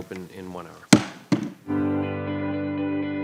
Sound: gravel bangs; bright music

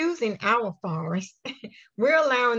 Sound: chuckles

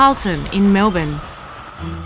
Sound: traffic

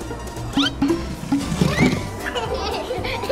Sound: toppings plop; giggles

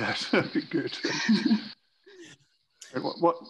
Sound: participants chuckles

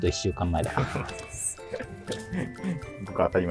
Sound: laughing

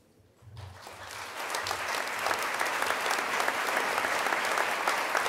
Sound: crowd applause

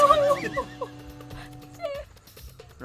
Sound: laughs

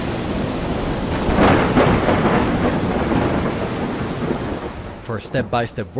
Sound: thunder crashing

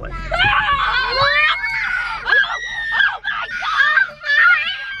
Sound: children cheering

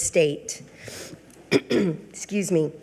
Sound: clears throat

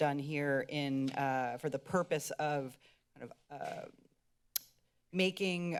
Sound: clicks tongue

